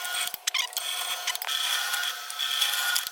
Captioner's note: drill whirring